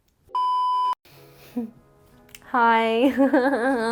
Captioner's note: beeping